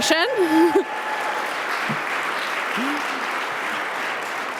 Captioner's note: audience applauding